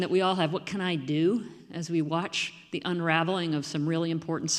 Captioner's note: none